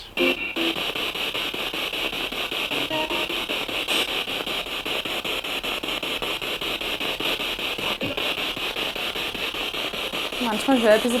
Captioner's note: sound of the Spirit Box in the background